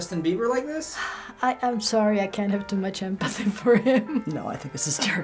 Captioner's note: sighs; laughs